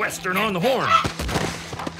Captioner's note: thud